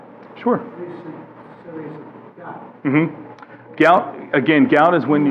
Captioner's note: voiceover